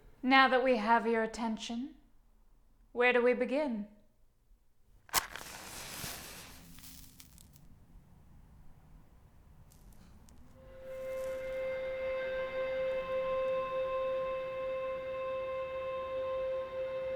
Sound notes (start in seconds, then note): 5.0 match lights, burns; 10.8 wick sizzles